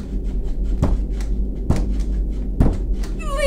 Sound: knocking on door

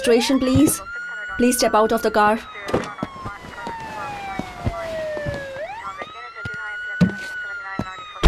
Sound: door opens; door shuts

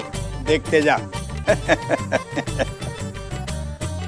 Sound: laughs

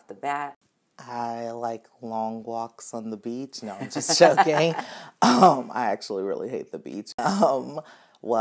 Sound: both laughing

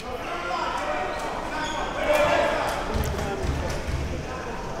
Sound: applause

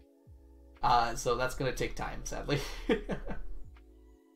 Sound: laughs

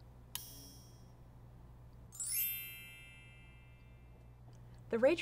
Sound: ding

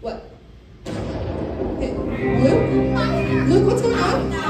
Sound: thunder

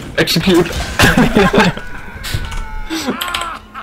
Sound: laughing

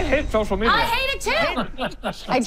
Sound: all laugh

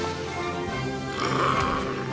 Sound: screeching

